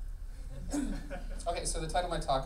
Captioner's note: laughing